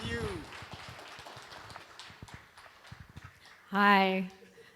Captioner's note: applause